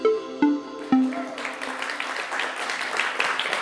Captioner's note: applause